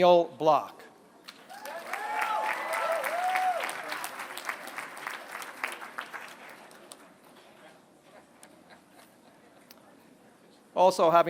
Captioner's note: applause